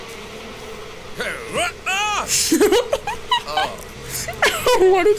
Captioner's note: grunts, yells out; laughing